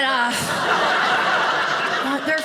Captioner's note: audience laughing